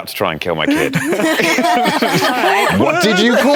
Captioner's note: laughter